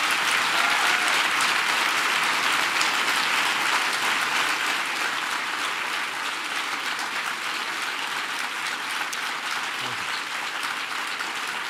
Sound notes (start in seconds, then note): 0.0 applause